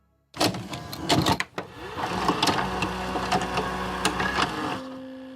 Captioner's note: tape playing; gentle music